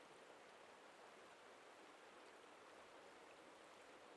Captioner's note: wind blowing softly